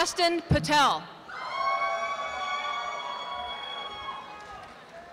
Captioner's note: applause